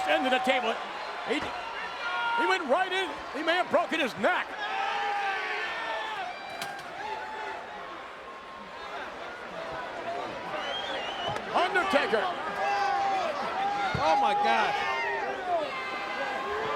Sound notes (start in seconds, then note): 4.9 crowd cheering